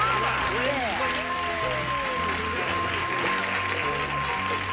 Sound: applause

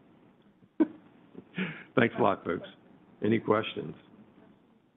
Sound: chuckles

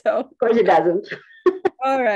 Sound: laughs

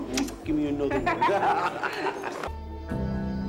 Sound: laughter; instrumental music

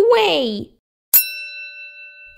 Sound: ding!

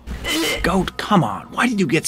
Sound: gagging

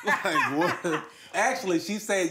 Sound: both laugh

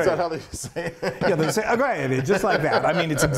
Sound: laugh

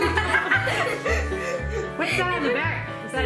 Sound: family laughs

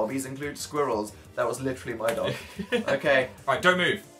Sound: giggles

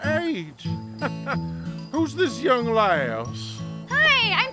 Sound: laughing

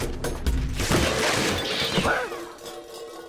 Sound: crashing sounds

